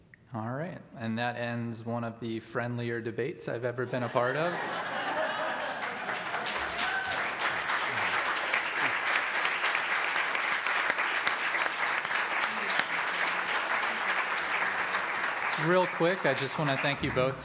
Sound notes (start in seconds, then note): 3.8 audience laughs; 6.7 audience claps